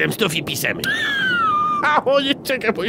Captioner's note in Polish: śmiech